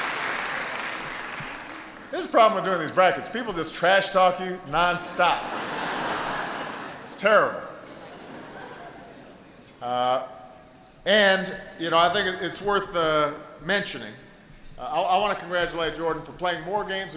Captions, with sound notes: This is the problem with doing these brackets -- people just trash-talk you non-stop. (Laughter.) It's terrible. And I think it's worth mentioning, I want to congratulate Jordan for playing more games